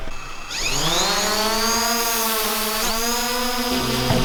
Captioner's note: engine noises